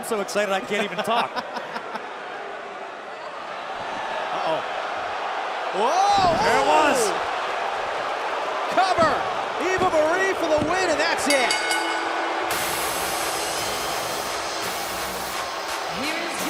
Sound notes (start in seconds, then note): 2.3 laughter; 11.2 bell ringing